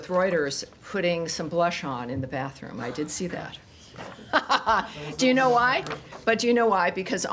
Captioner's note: laughter